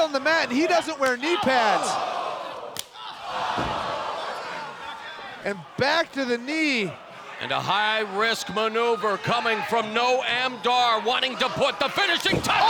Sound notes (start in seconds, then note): 2.0 crowd exclaiming